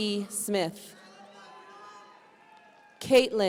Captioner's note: audience cheering